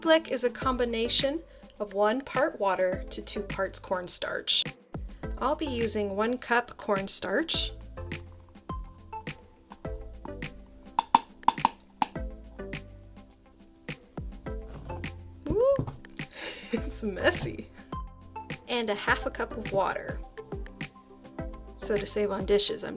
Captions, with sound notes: Ooblek is a combination of one part water, to two parts cornstarch. I'll be using one cup cornstarch, (plastic taps on metal) Ooh (laughs) it's messy! And a half a cup of water, so to save on dishes